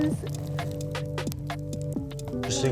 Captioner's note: fire crackling